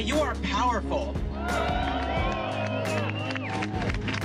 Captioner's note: cheers and applause